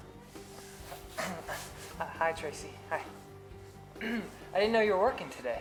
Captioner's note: clears throat